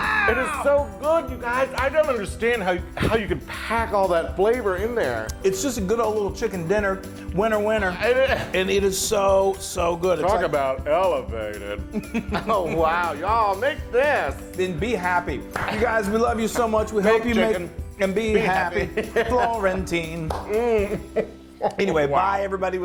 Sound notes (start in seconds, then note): 12.0 laugh